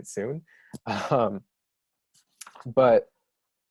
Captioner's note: laughs